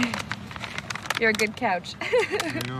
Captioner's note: chuckles